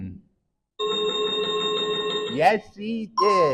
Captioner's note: chiming sound effect